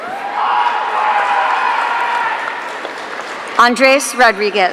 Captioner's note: audience cheering